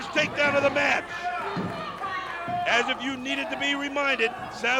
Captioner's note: crowd chatter